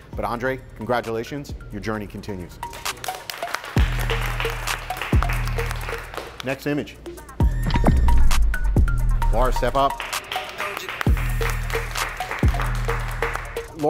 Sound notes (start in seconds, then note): 2.7 competitors applauding; 6.5 upbeat pop music; 9.8 competitors applauding